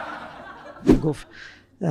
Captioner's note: laughter